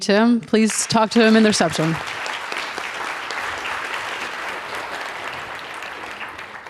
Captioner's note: audience applauds